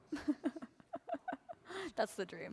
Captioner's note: laughter